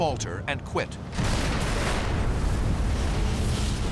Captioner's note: explosions